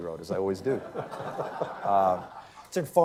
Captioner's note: laughter